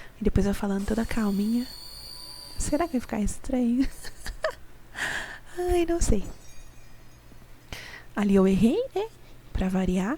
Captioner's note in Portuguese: risadas